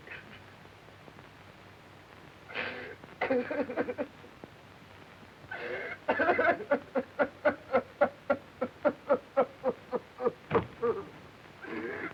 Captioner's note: crying softly